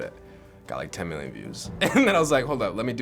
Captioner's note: laughs